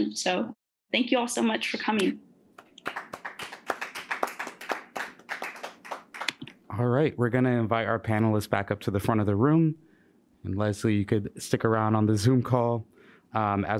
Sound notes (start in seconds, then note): 2.6 audience applauds